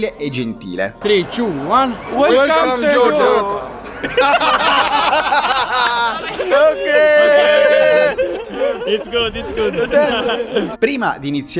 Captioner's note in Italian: Applauso; Risate